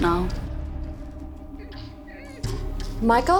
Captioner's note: whimpering